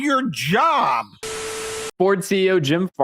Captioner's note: TV static